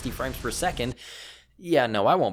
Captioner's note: takes deep breath